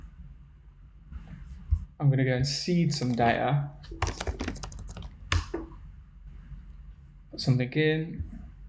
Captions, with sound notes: I'm gonna go and seed some data. (tapping keyboard) so then again.